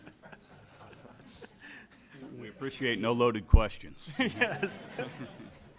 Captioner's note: laughter